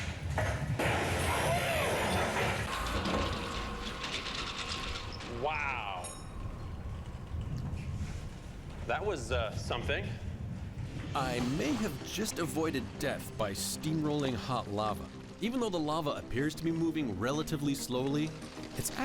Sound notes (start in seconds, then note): 1.7 door swings open